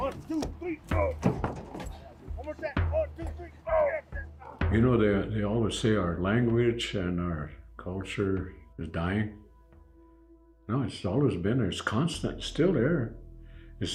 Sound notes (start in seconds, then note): 1.6 grunting; 3.4 grunting with effort